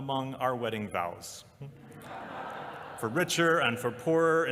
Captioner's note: laughter